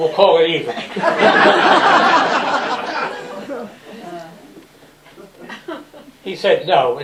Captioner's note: laughter